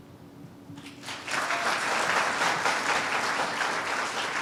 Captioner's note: applause